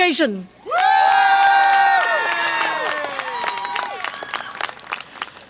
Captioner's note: audience applause and cheer